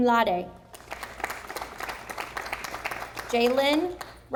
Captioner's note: audience applauding